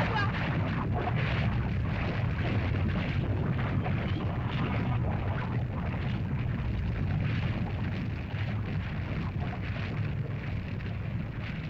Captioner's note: lava bubbles & flows